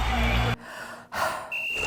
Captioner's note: crowd roaring; deep breath; whistle blows, players grunt, thuds